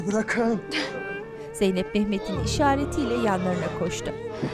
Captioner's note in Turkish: İnleme sesleri